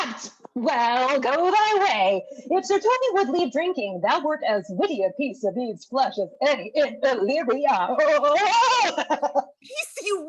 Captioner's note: laughs